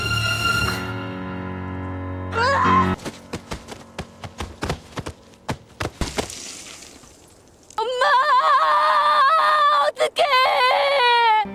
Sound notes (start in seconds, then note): 5.9 bone fracture ASMR